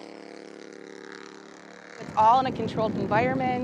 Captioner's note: engine revving fast